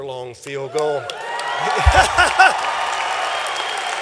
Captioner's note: cheering; applause